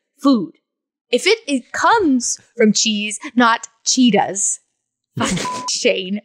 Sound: beep

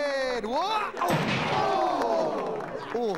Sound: thud

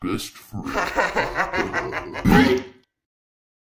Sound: both laugh

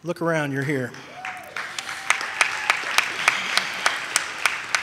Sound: audience cheers

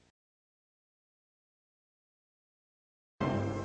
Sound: silence

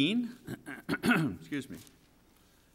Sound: clearing throat

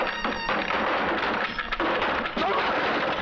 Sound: door thudding

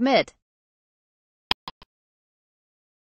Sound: click sound

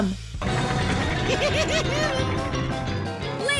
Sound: giggling

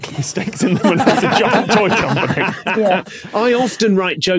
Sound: group laughing

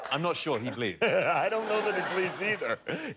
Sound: laughter

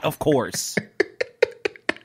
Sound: laughter

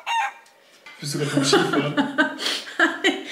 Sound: laughing

